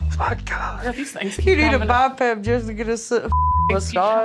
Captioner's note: beep